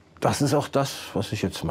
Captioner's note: none